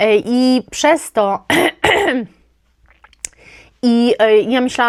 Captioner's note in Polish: kaszel